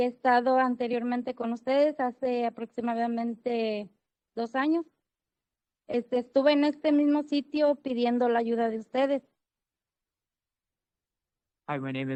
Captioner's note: speaking Spanish